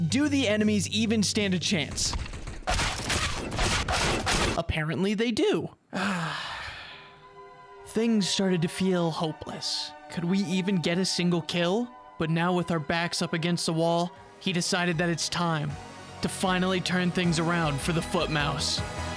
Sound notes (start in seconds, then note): 5.9 sigh; 6.8 sad music begins; 14.5 epic music ensues